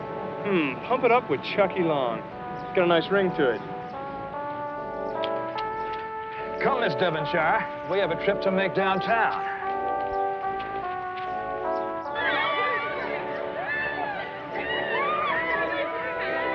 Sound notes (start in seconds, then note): 12.2 cheering and laughter